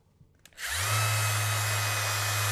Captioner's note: machine whirring